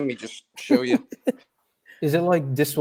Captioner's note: laughs